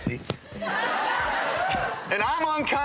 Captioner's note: audience applauding